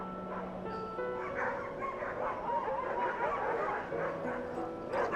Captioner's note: dogs barking